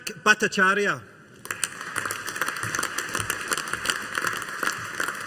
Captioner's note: audience applauding